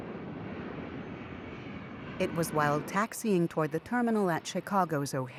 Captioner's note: plane engine roars